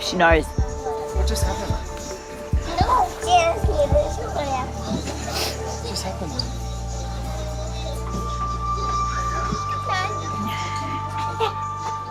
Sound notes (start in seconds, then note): 2.6 child chattering; 7.8 unsettling instrumental music